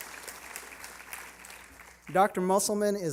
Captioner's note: applause